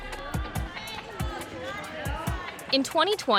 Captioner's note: crowd cheering